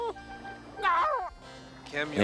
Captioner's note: exclaims